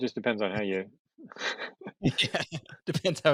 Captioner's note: laughs